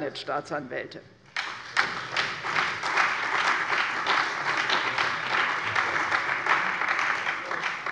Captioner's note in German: Beifall bei der CDU und dem BÜNDNIS 90/DIE GRÜNEN sowie bei Abgeordneten der SPD